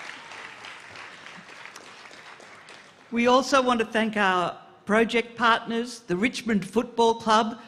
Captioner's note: applause